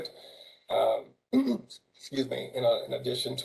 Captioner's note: cough